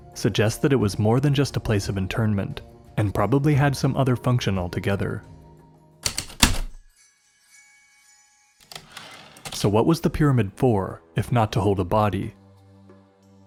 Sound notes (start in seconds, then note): 6.0 typewriter keystrokes then return slide